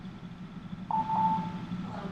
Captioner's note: phone beeps